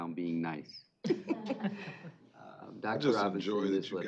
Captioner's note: chuckling